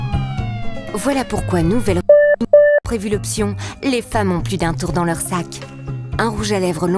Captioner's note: bip